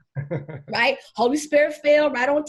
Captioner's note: laughing